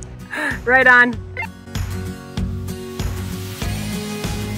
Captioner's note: radio beeps; joyful music